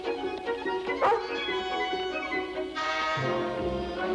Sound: Shep barks; foreboding music

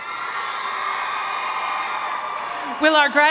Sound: audience cheering and applauding

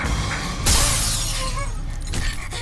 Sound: crash

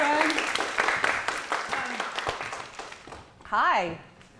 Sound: applause

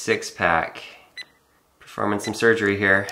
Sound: beeping

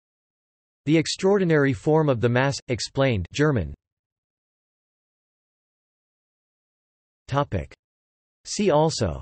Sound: German

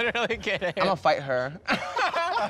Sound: shouting

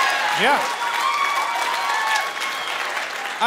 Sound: cheering and hooting

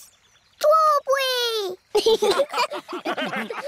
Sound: laughter

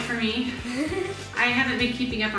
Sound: giggles

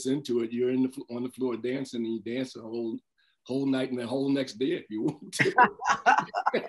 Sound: laughter

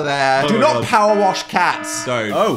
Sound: siren blaring

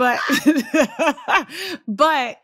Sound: laughter

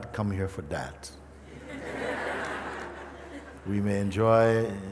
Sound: laughter

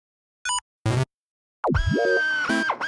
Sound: beep! Beep! Beep!; drilling

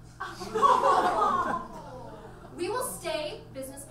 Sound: audience laughs

